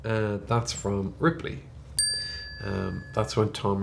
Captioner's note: bell chimes